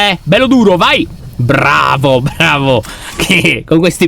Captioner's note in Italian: suono della porta che si apre